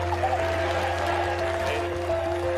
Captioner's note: cheers